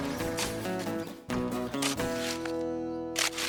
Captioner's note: shovel Scraping